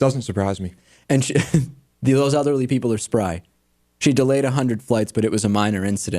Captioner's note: laughs